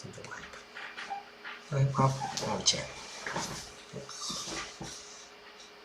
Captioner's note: chair collapse